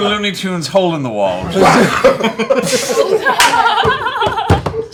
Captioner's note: laughter